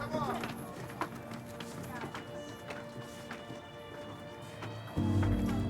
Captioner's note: people chattering faintly